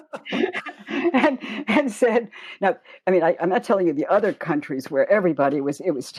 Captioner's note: chuckle